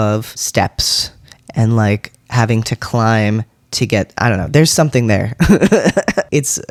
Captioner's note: laugh